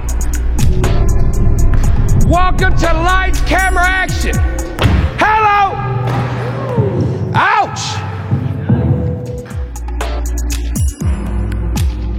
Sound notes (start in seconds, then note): 0.1 upbeat music; 5.3 dunk sound; 6.1 cheers; 9.6 tense music